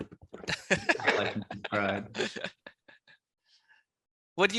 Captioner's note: laughs